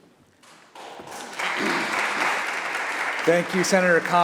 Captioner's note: applause